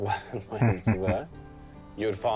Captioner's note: chuckling